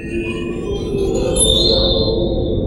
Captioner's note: eerie drone/waterphone sound effect